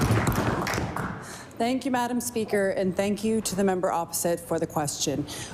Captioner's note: applause